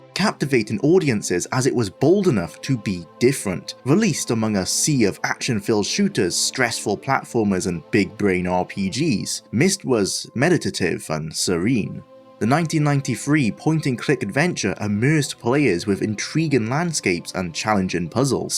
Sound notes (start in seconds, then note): none